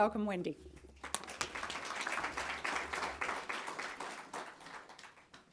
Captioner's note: audience clapping